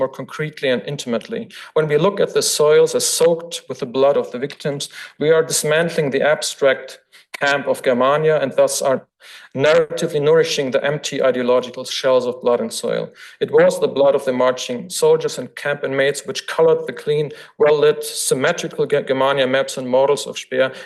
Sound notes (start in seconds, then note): none